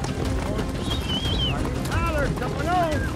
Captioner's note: whistling